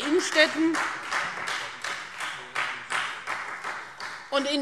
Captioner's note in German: Beifall Freie Demokraten